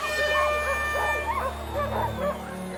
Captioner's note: air horn blaring; dogs barking; crowd chattering excitedly